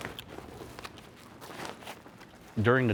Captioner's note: indistinct rustling